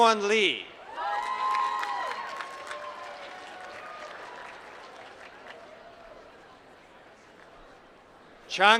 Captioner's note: applause